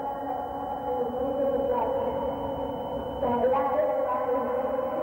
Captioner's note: humming